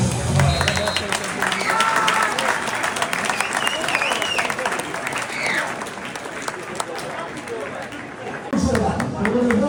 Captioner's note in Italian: Applauso